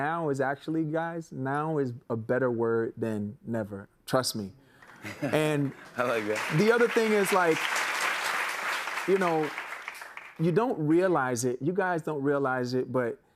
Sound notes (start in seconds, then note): 8.2 applause